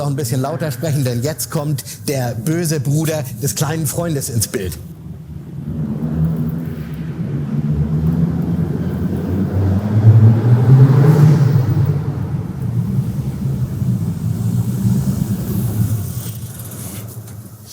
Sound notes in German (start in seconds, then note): 5.0 Motorengeräusche